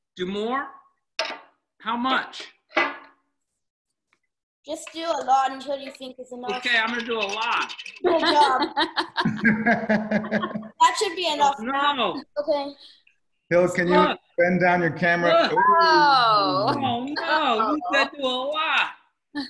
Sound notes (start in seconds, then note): 7.9 laughing